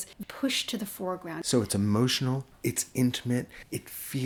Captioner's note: voiceover